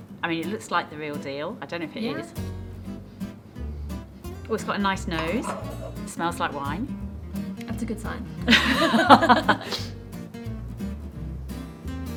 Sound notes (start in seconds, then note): 5.1 glass scraping; 8.4 laughing